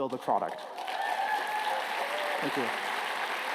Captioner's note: applause